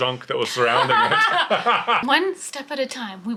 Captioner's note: laughing